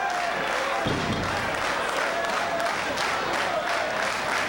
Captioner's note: audience clapping